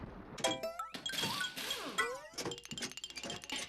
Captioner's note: metallic clanging